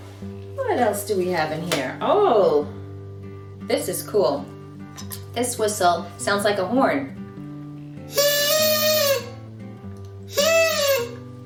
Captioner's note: honk! Honk!